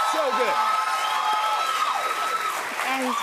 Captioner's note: cheers and applause